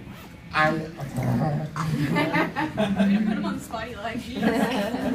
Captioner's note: loud laughter